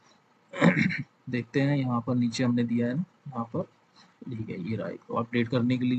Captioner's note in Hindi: गला साफ़ करने की आवाज़